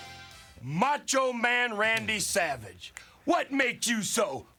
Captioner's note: Flair snaps